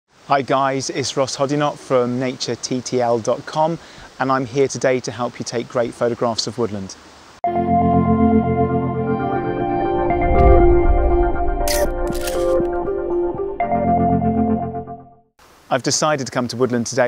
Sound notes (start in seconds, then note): 7.4 light uplifting music; 11.7 clicking camera shutter